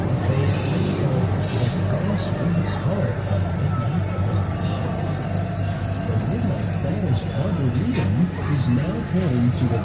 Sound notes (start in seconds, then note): 1.4 air hissing